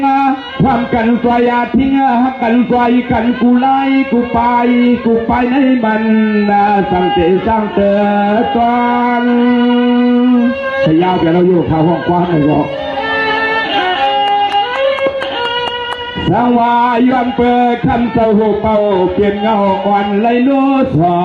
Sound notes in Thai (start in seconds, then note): 13.9 ปรบมือ